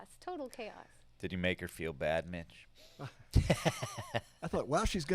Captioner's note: laughs